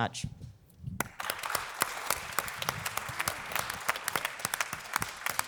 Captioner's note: audience applause